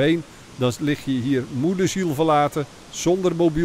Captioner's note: voiceover